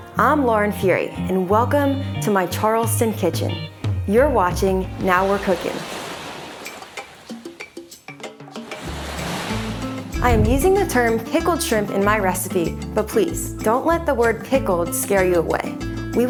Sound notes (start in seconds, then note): 6.1 lively jazz music; 6.1 waves murmuring